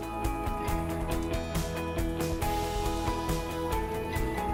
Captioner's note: audio fast-forwarding